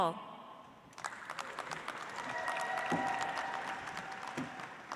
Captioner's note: audience applauds